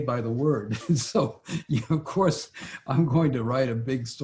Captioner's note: laughs